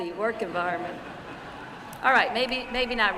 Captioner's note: laughter